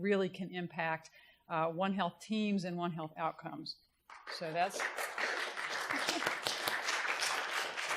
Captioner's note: applause